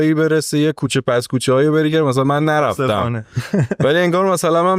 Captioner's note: laughs